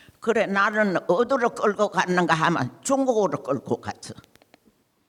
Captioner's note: speaking in foreign language